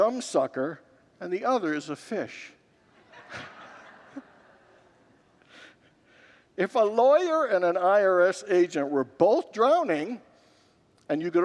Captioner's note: congregants laugh